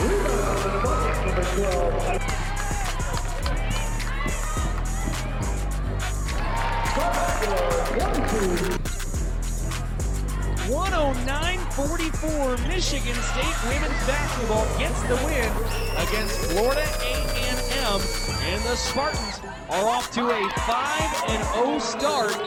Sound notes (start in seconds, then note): 4.4 intense upbeat music; 6.6 crowd drowns out announcer; 6.7 crowd cheers; 9.5 intense upbeat music; 15.9 crowd cheering